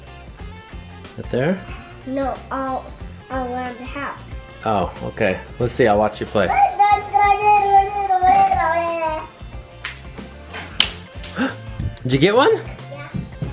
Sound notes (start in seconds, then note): 6.9 makes silly noises; 11.3 gasps